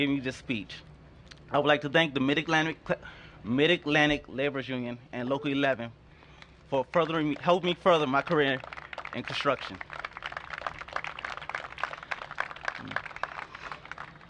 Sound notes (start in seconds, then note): 10.8 applause